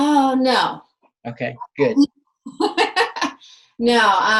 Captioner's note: laughs